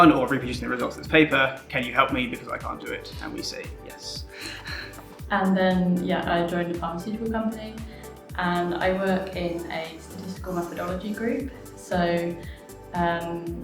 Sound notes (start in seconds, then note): 4.4 laughs